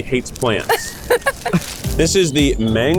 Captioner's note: laughs